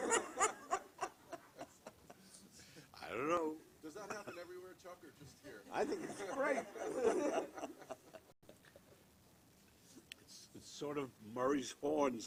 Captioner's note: laughter